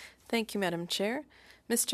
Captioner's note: speaking French